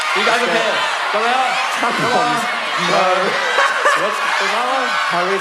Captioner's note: shouting out words